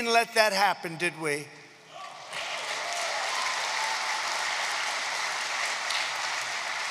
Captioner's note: applause